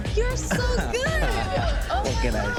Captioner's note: all laughing